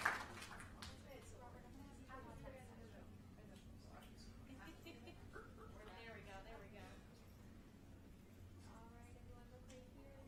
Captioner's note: applause